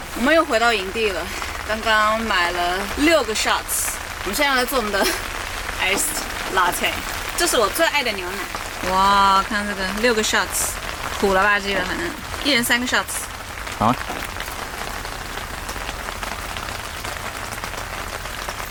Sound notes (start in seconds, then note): 1.7 noise of heavy rain